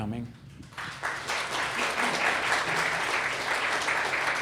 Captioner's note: applause